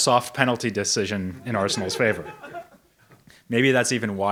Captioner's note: audience member laughs